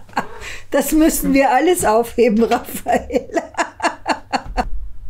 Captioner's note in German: lachend